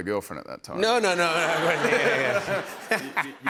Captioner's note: laughter